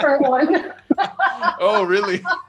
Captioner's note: laughs